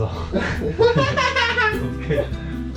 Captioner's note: laughter